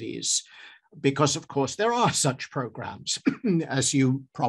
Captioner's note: coughs